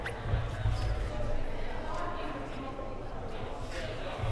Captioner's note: crowd murmuring